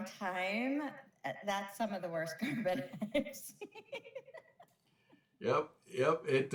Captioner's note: laughs